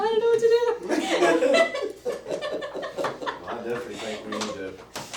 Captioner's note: laughter